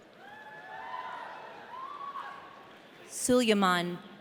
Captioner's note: audience cheering